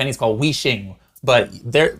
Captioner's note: speaking in foreign language